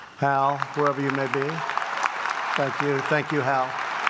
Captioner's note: applause